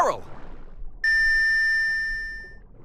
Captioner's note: beeping